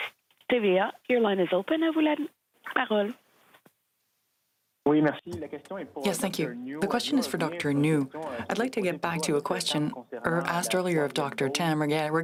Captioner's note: speaking French